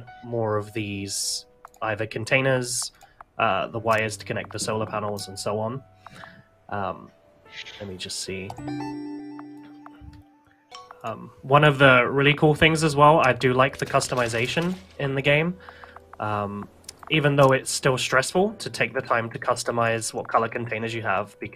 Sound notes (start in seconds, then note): none